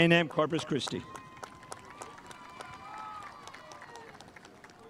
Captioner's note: spectators applauding